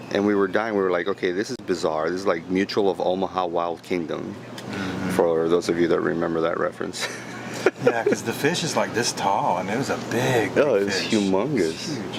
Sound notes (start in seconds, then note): 7.0 laughing